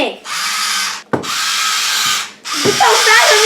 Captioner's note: electric Spritz Noise